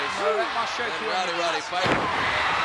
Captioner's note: crowd clamoring